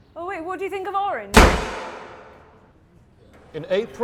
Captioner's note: front door slams